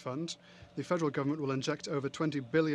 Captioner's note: speaking French